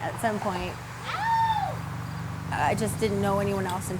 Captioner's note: short scream